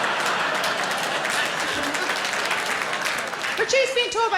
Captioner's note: audience laughing; audience applauding